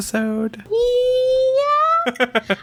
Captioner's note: laughs